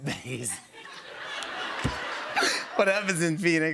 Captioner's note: laughter